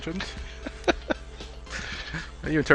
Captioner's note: laughing